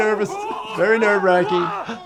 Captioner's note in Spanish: personajes gritando